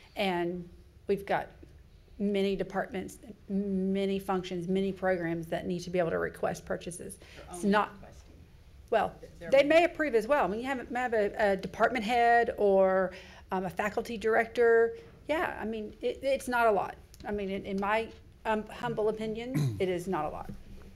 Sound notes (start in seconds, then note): 8.6 speaking faintly